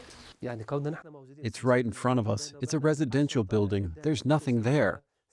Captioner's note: through translator